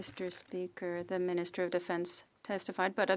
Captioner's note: speaking French